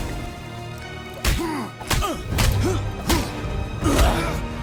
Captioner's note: blows thudding; dramatic music; gods grunting